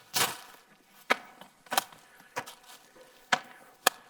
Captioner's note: plastic popping; loud rustling; plastic popping